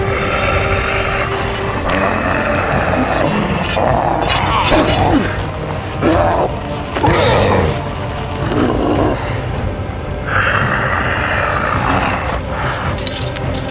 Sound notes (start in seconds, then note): 0.0 orc roars; 4.6 orc grunts